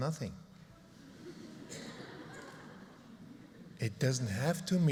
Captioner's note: laughter